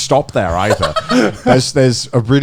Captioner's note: laughing